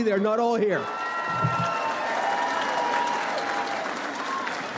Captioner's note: audience applauds